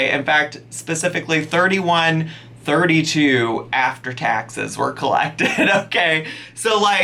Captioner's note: laughs